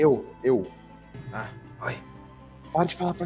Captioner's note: whispering